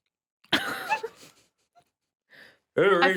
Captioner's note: laughing